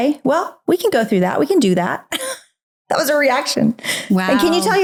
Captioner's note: laughs